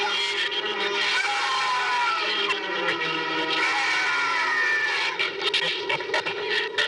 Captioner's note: screaming